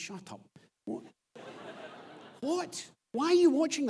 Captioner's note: audience laughs